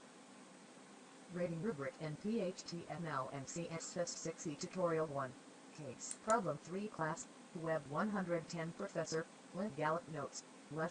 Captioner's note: audio voice of screen reader speaks